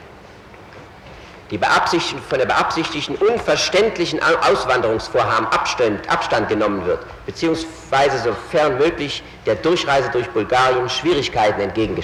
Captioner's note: reading previous passage in the original german